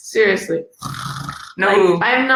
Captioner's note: snores